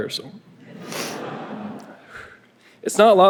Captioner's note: audience laughing